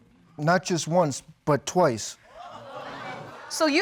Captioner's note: audience exclaiming